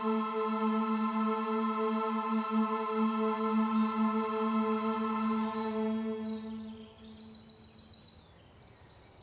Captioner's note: birds chirping